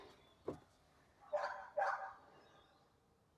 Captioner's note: ruff, ruff